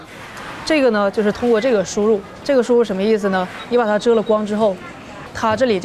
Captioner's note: speaker speaking in foreign language